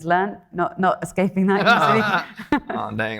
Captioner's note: chuckles; laughing